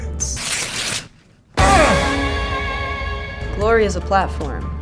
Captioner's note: Spice grunting; victory music; suspense music